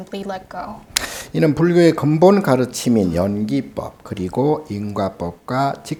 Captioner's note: speaking Korean